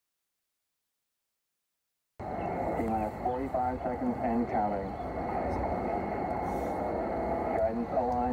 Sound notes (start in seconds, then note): 2.2 recorded Apollo 16 audio; 7.0 Apollo audio continues